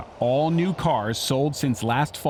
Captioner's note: none